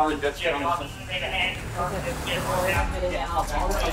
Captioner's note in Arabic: الراديو